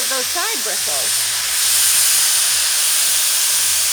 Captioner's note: dryer whirs